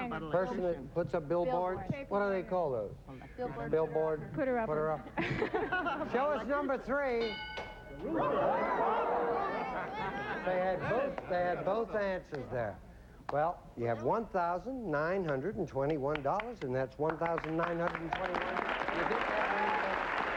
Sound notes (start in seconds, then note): 7.8 overlapping chatter